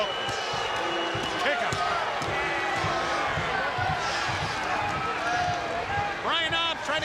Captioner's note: crowd chatter